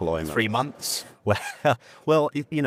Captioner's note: chuckles